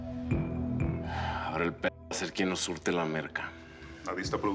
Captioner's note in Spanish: exhala